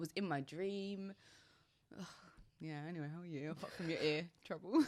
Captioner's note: both chuckle